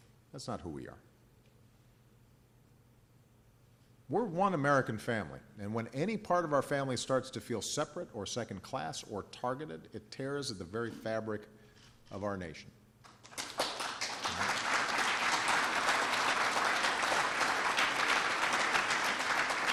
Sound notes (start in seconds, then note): 13.0 applause